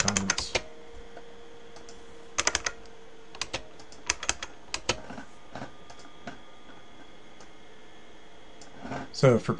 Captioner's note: typing